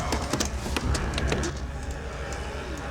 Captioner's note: zombies Growling